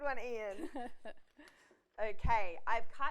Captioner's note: laughs